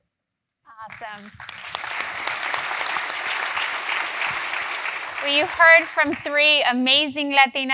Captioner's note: applause